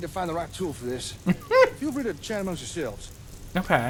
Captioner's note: laughing